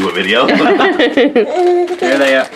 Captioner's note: laughing